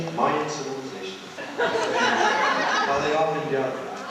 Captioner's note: laughter